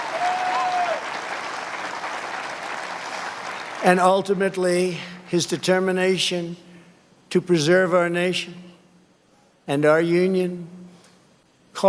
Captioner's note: cheers and applause